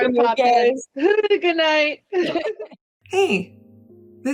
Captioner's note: laughter